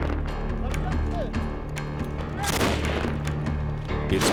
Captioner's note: gunshots